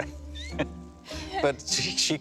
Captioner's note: laughing